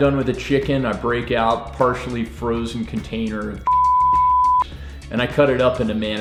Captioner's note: beep